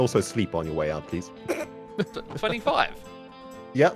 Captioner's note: snickers